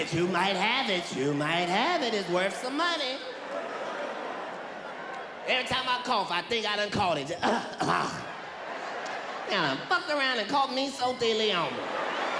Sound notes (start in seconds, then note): 7.4 coughs; 11.5 audience laughs